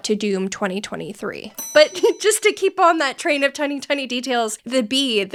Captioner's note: bell ringing